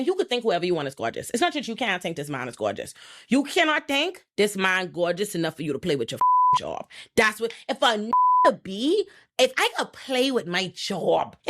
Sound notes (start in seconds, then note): 6.2 beep; 8.1 beep